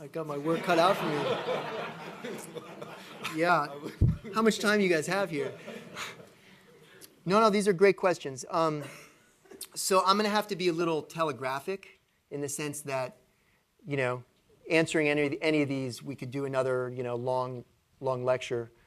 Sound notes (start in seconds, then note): 0.4 laughter